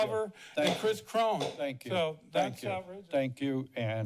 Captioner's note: gavel bangs